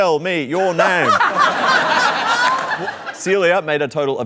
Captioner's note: laughter